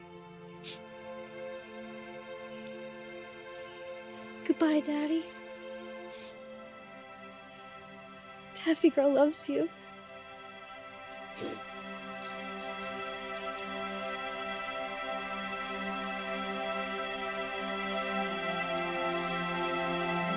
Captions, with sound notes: (gentle music) Goodbye daddy. Taffy girl loves you. (Taffy sniffing) (gentle music)